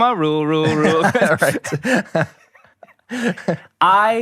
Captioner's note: laughs